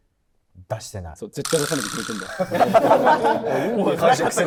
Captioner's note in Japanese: 一同：笑い